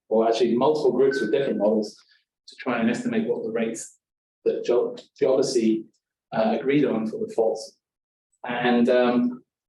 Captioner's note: device Beep